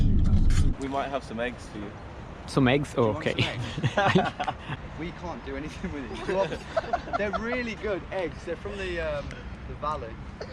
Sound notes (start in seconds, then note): 3.2 laugh; 5.6 people laughing off-camera